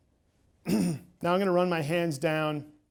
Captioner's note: clears throat